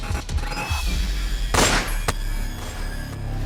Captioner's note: gun firing